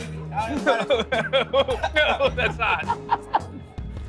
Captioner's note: laughing